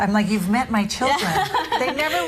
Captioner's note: laughing